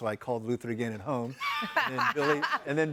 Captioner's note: laughing